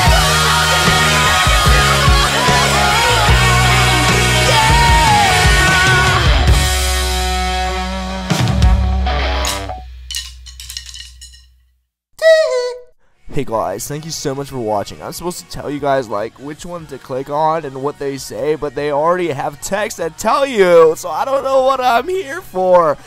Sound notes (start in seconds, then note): 10.0 drumsticks clatter onto the floor